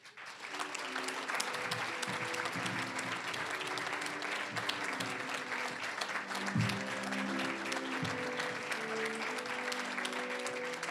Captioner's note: applause